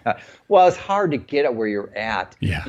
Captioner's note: laughing